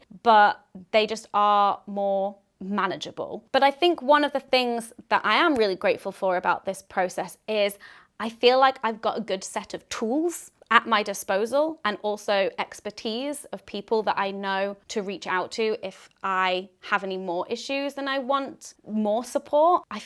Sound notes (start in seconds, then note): none